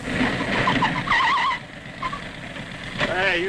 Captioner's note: engine rumbling; tires squealing